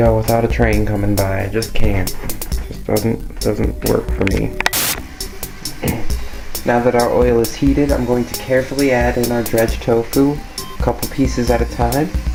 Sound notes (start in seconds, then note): 4.6 camera Click; 5.8 clears throat